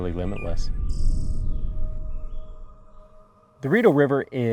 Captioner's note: birds chirping